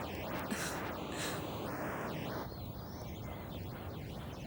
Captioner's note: Trina chuckles